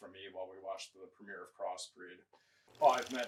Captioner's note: film reel clicking